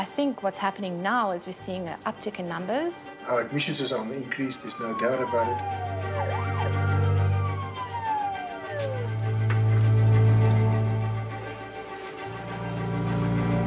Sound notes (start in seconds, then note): 5.9 ambulance siren